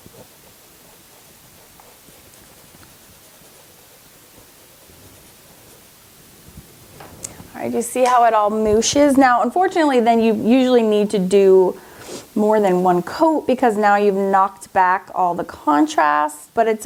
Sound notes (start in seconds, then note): none